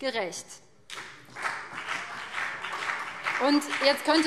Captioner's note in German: Beifall